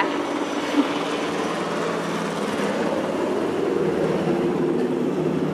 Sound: helicopter engine roaring

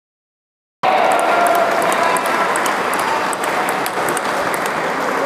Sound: applause

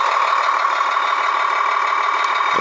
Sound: revving continues

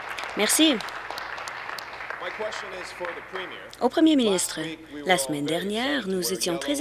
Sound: applause

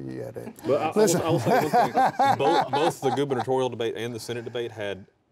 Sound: laughter

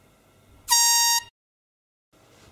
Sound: world's tiniest airhorn

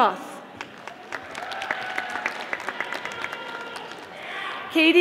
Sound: audience applauding

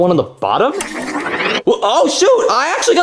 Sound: power whirring

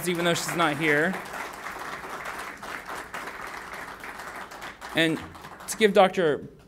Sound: applauding

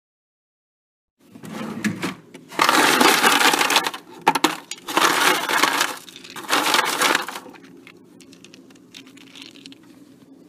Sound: sound if freezer ice bucket

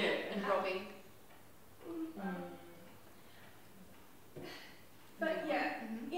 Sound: make vague sounds of agreement

